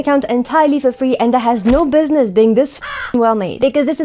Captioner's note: caw